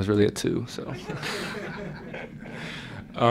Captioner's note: laughter